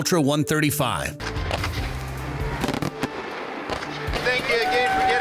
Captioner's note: fireworks popping; audience cheering